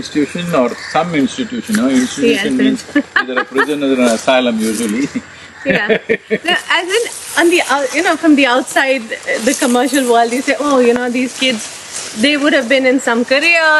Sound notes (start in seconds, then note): 2.3 Juhi Chawla laughs; 5.1 laughs